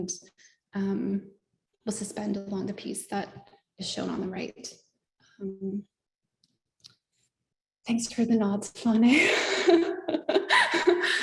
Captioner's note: laughter